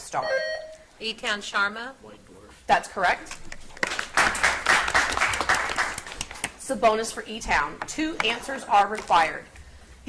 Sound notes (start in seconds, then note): 0.0 buzzer beeps; 3.8 audience applauds